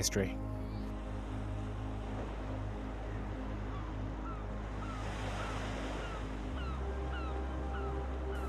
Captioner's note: seagulls and town ambience